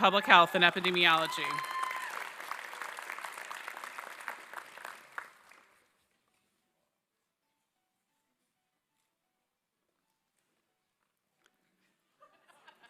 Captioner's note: applause